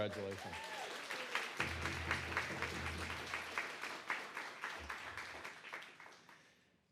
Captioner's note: applause